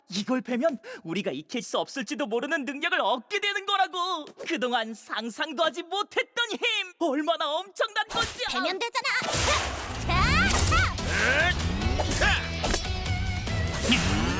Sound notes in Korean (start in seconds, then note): 10.0 기합 소리